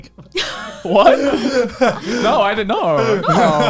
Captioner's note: laughs